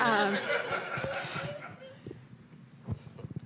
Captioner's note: laughter